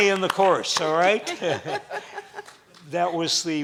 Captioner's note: laughing